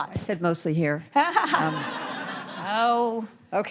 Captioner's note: all laughing